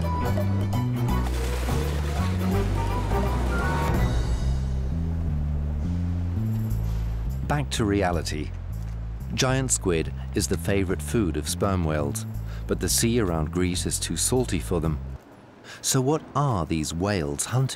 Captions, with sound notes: [water splashes] Back to reality. Giant squid is the favorite food of sperm whales, but the sea around Greece is too salty for them. So what are these whales hunting?